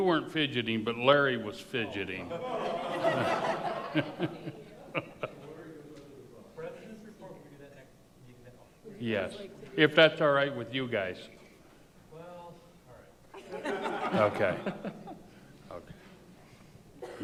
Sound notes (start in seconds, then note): 2.3 laughs; 6.3 board member faintly speaking